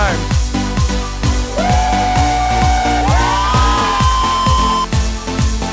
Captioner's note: cheering